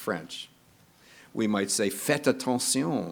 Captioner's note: speaking in foreign language